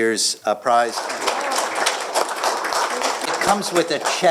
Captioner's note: applause